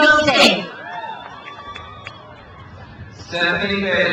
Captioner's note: crowd cheers